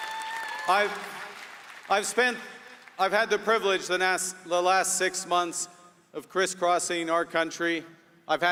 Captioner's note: applause